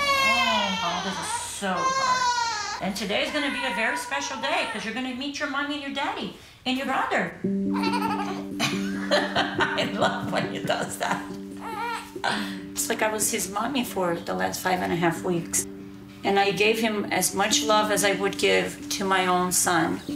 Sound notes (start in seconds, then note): 7.7 laughs; 7.8 makes laughing sound